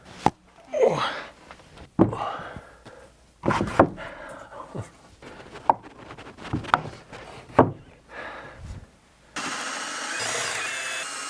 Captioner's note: grunt; sawing